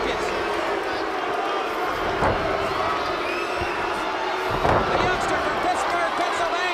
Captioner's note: crowd chatter